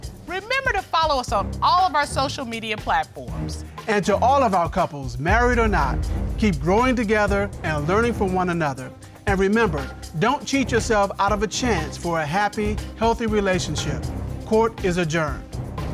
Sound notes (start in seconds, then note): none